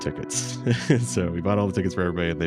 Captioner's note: laughs